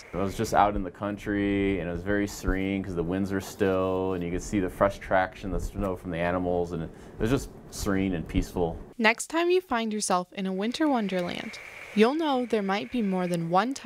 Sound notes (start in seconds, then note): 8.9 voiceover